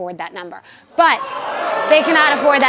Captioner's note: crowd cheering